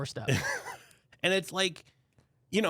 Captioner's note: laughs